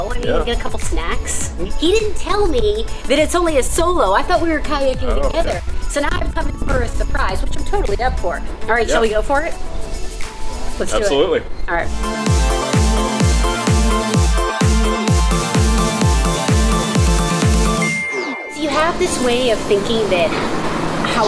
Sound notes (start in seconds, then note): 13.0 techno music playing; 17.8 dinging